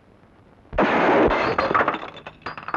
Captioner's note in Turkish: Tüfek sesi